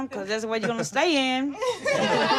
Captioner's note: laughing